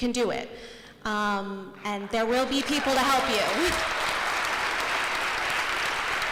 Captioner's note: applause